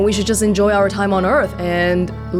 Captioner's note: none